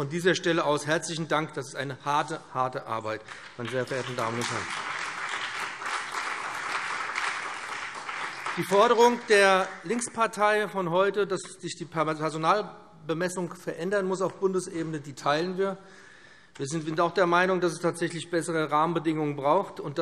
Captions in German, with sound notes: Von dieser Stelle aus möchte ich meinen herzlichen Dank aussprechen. Das ist eine wirklich harte Arbeit. [Beifall BÜNDNIS 90/DIE GRÜNEN, vereinzelt CDU und SPD] Die heute von der Linkspartei vorgebrachte Forderung, dass sich die Personalbemessung durch eine Änderung auf Bundesebene verbessern muss, teilen wir. Wir sind auch der Meinung, dass es bessere Rahmenbedingungen braucht.